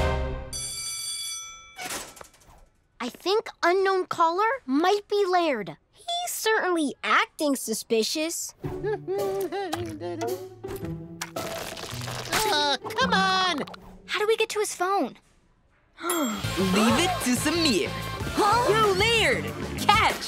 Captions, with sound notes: [bell ringing] I think Unknown Caller might be Laird. He's certainly acting suspicious. [humming] Oh, come on! How do we get to his phone? [gasps] Leave it to Sameer. - Huh? - Yo, Laird, catch!